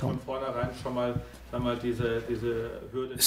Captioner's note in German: Vortrag im Hintergrund